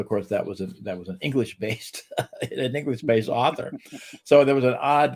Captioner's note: chuckles